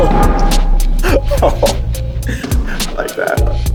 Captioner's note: laughing